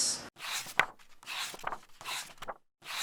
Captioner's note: pages turning